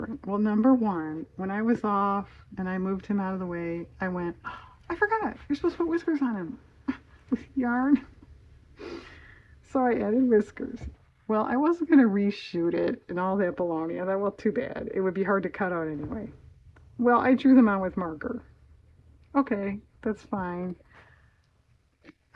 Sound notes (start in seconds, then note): 6.8 laughs